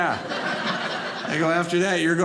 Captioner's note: audience laughing